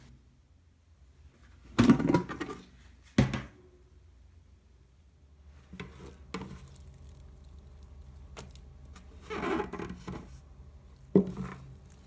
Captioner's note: folding